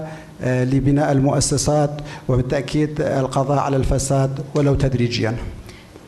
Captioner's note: speaking in foreign language